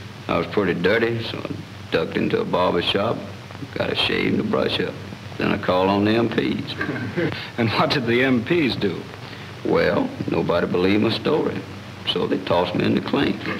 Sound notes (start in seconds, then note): 6.7 laughter